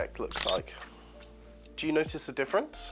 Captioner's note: shutter clicks